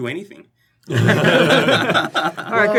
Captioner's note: laughter